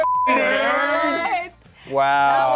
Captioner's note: beep